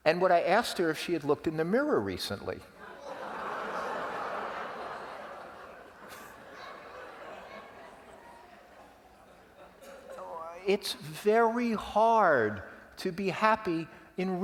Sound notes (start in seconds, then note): 2.8 laugh